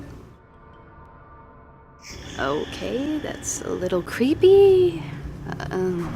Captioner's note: creepy noises